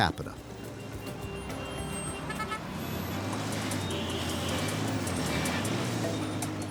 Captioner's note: cars honking and engines roaring